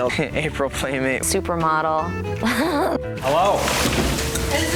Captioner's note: laughs